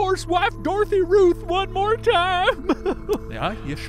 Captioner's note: weeping